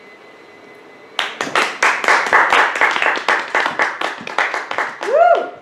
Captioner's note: applause